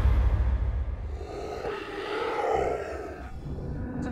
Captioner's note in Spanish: Gruñendo